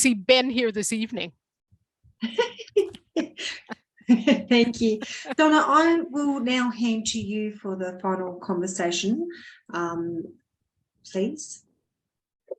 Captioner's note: laughing